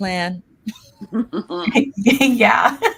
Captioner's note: both laughing